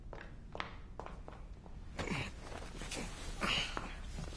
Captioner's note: grunting